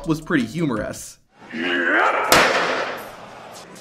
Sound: fans cheering; Drew Gulak groaning

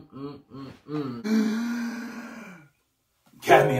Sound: gaaaaaaaaaäsp!

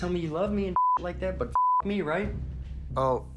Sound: beep

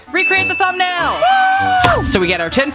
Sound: cheers

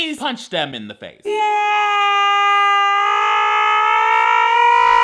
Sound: yelling

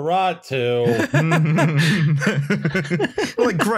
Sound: laughter

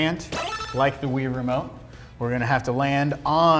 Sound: beep

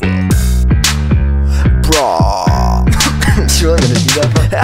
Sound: coughing

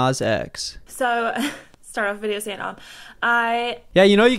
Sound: laughs

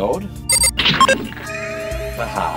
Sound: beeping

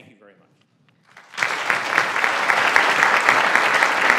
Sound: applause

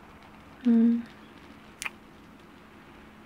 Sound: kiss

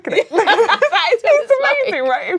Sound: laughing

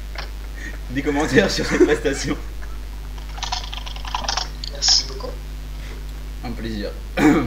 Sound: laugh

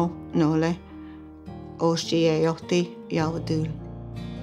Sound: speaks in Cherokee; speaks in Cherokee

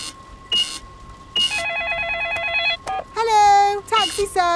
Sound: cash register beeping; cellphone ringing; beeps

